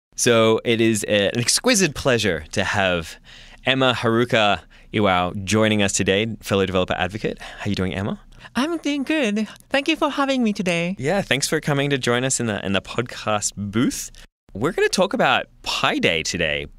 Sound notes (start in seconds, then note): none